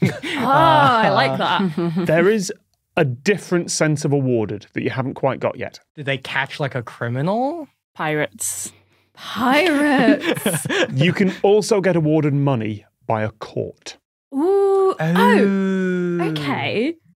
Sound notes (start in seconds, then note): 1.7 chuckles snidely; 9.7 giggles